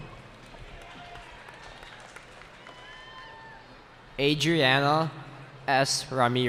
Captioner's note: cheering